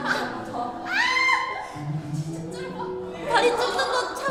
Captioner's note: the practice room is filled with groaning